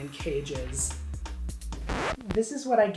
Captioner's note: record scratching